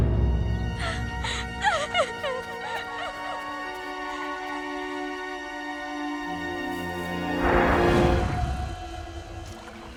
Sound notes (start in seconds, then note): 0.8 crying